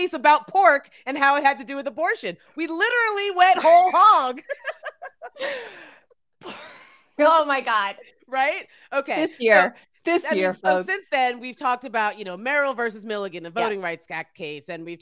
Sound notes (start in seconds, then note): 3.6 laughing